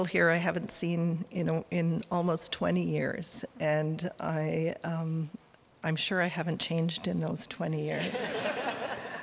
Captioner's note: audience laughter